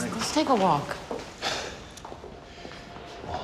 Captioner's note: sighs